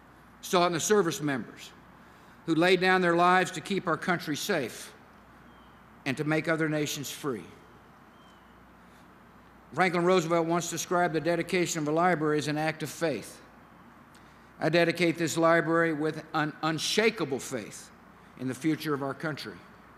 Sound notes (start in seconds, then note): none